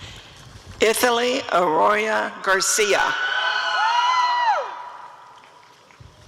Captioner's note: applause and cheering